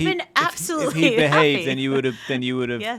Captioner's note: laughing